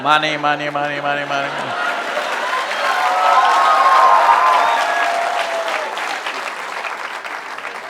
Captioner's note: cheers/Applause